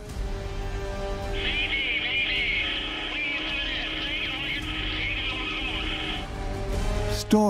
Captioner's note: man over radio